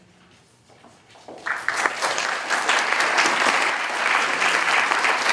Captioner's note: applause